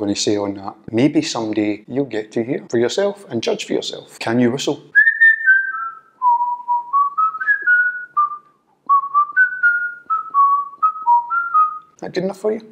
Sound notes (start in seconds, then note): 4.9 whistles the new theme tune